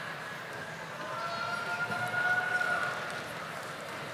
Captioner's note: audience applauding